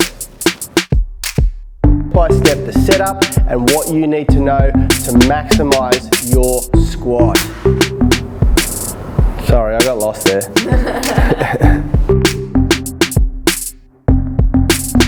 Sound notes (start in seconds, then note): 0.2 upbeat hip hop music; 10.5 camera crew laughing; 12.3 hip hop music